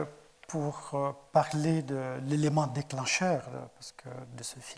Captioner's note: speaking in French